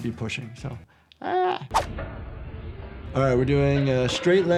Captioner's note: shouts gently